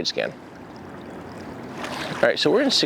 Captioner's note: water splashing